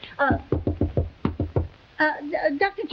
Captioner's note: Veta knocking